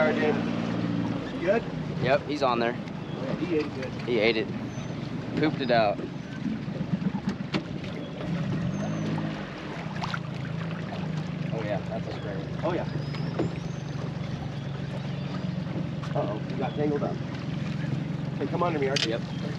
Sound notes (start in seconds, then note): 6.7 boat engine idling; 17.0 boat engine idling